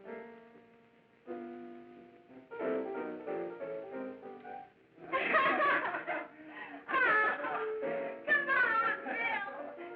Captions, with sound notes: (laughing) - Come on, Bill.